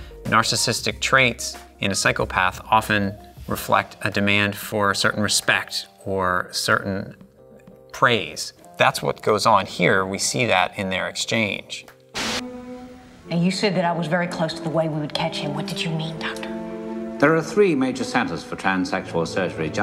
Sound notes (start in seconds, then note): 12.1 static hisses; 12.7 slow dramatic music